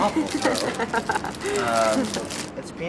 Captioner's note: laughs